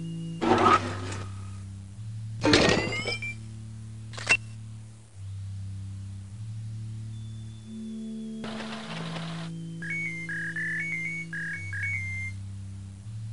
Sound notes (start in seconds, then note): 0.0 warm civic instrumental; 0.4 servos whirring to life; 4.1 camera shutter; 9.7 beeping